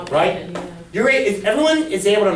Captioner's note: voiceover